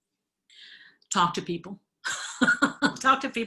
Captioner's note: chuckles